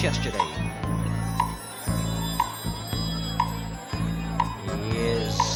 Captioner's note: clock ticking